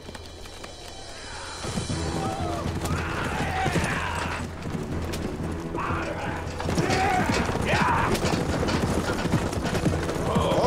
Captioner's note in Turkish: Bağrışma Sesleri